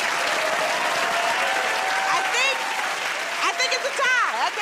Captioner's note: cheers and applause